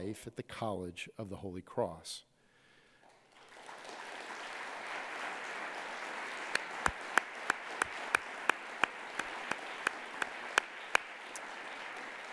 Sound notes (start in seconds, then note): 3.1 people clapping